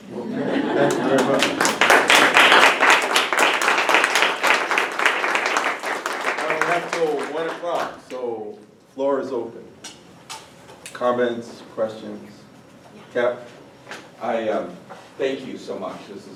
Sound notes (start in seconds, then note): 0.8 applause